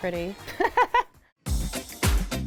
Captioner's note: laughs; upbeat music